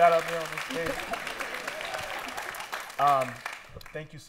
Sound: laughter and applause

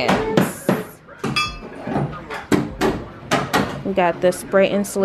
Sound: loud bangs on the floor

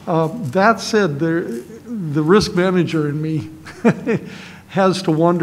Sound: laughs

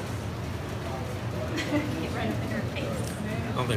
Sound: laughs

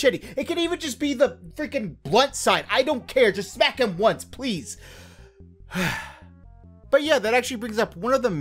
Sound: sigh

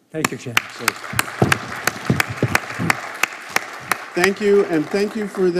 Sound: audience applauding

